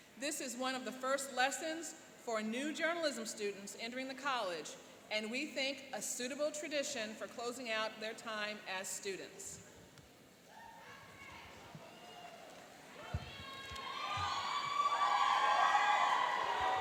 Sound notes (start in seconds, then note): 11.8 cheering and applauding